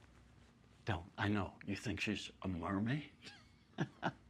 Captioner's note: laughs